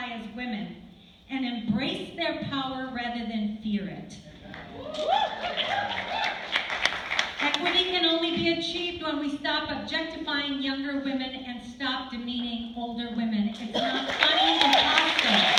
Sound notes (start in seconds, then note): 4.5 applause